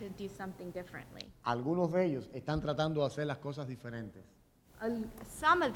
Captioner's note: speaking in Spanish